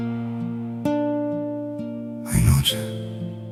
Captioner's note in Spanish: ovación